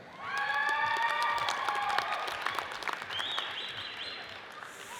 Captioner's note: audience cheers and applauds